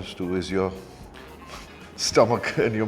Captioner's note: laughs